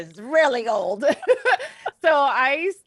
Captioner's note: both laugh